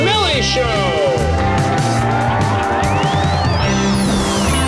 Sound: cheers

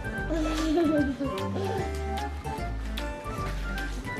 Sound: giggles

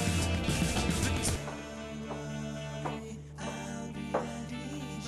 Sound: steps approaching

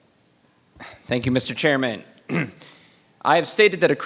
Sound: clears throat

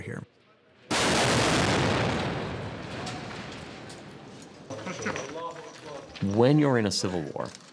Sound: explosions

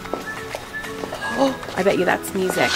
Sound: gasps

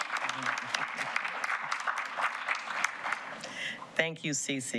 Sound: applause

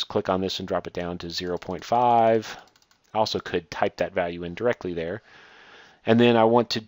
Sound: clicking

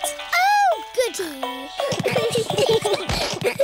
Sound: all giggling

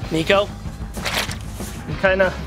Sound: mud squishing

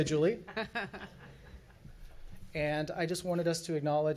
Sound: chuckles from the audience

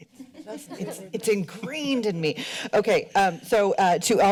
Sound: laughter

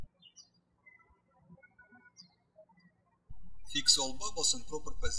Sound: birds chirping

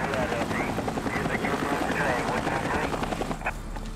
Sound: radio chattering

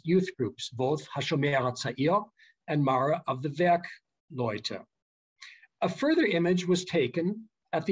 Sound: german

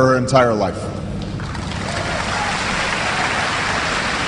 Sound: applause

